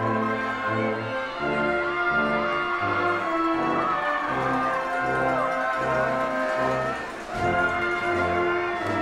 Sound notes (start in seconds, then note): 2.3 attendees cheering